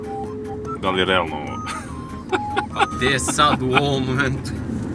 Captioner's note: laughs